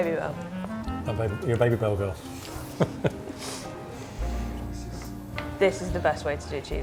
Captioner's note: laughs